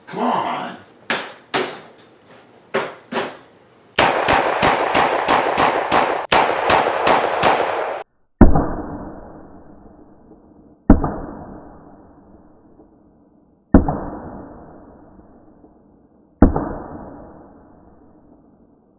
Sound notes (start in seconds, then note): 4.0 gunshots; 8.3 slow motion gunshots